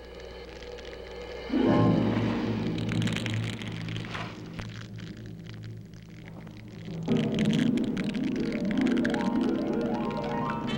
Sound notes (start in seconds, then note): 1.3 dramatic music; 1.8 flames crackling continues